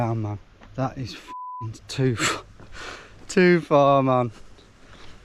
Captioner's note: beep